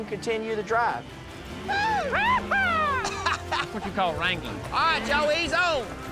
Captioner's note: shouting